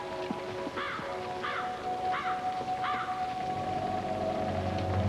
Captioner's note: crow cawing